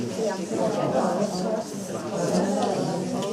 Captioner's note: group chattering